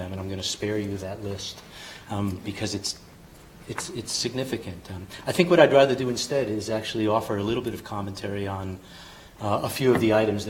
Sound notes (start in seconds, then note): none